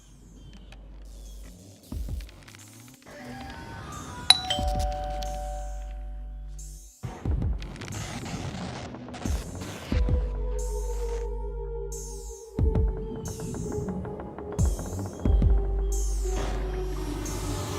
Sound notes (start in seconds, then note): 0.2 industrial music; 4.3 doorbell